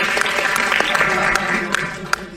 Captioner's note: laughter; applause